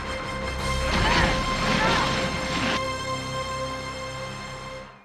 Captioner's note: ladies groaning